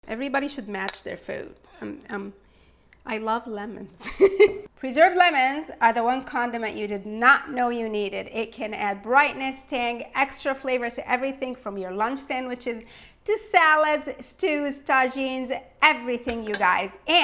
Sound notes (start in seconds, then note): 4.1 laughs